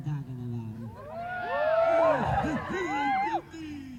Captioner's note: cheers